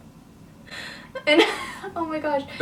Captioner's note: laughs